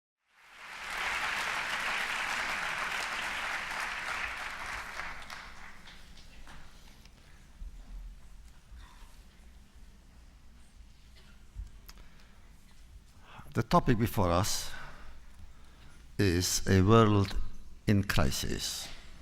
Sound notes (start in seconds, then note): 0.2 applause